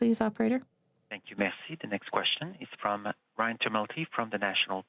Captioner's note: speaking french